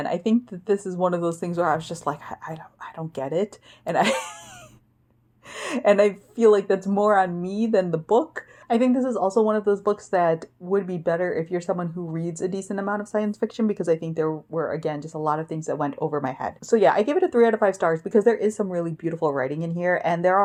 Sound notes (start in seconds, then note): 4.0 laughs